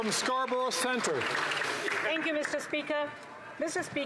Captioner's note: some Applause